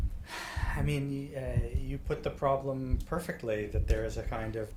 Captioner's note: sighs